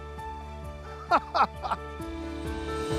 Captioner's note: laughs